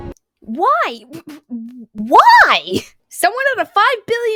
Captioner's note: sputtering